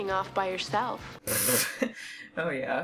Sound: laughs in disbelief

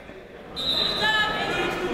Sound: chatter; whistle

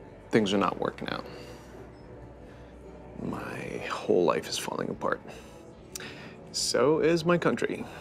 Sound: none

